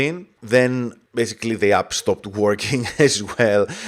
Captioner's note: laughs